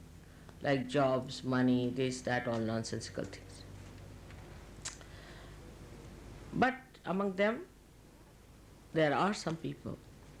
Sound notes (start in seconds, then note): none